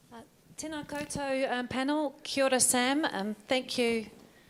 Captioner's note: speaking in foreign language